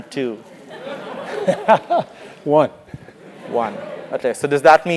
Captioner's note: laugh